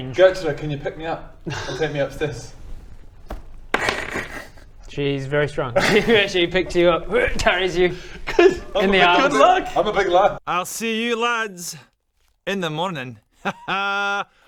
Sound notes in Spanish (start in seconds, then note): 3.6 tirada de dados; 5.8 hrrgh